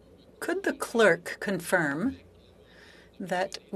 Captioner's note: speaking French